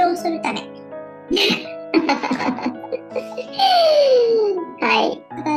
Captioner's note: laughs